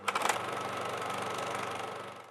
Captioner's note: movie projector reel turns